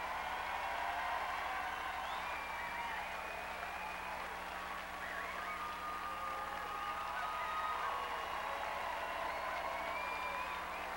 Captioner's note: crowd cheering